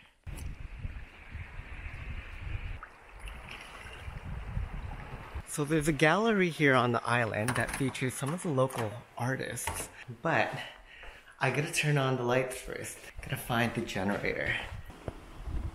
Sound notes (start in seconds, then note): 0.2 sound of wind blowing; 2.7 sound of calm waters